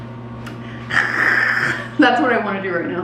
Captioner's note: wheezing